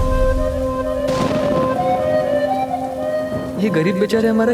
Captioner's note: thunder rumbling